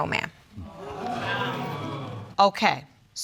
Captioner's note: audience exclaiming